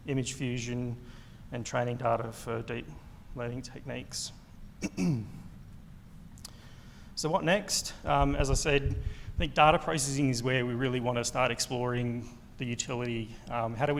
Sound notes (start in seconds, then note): 4.8 clears throat